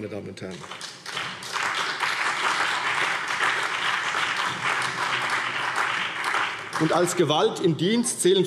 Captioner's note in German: Beifall CDU, BÜNDNIS 90/DIE GRÜNEN, SPD, Freie Demokraten und AfD